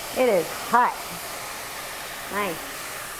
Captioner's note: sound of mushrooms sizzling